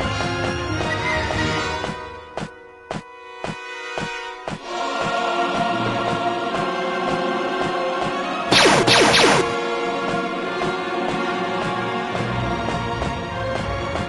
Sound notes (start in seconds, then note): 8.5 blaster fire